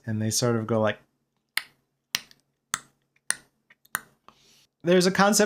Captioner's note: clacking noises